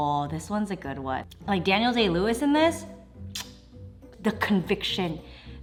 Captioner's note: kisses